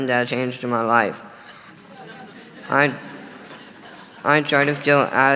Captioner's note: audience laughing